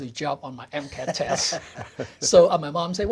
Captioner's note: both chuckle